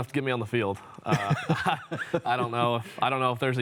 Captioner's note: laughs